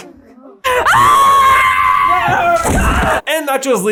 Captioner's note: scream of rage